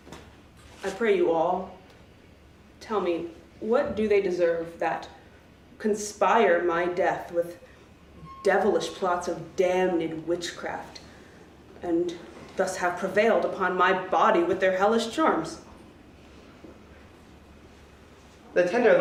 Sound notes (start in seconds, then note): none